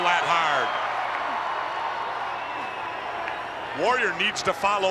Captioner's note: crowd cheering